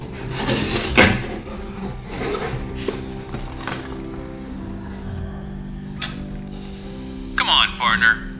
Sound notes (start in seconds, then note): 2.0 manny sighs skeptically